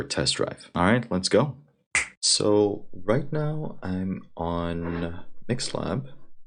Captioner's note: finger Snapping